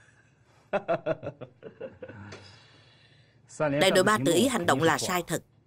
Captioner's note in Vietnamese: Tiếng cười